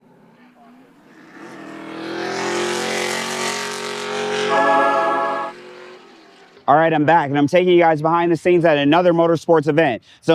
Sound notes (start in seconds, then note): 0.1 engine revving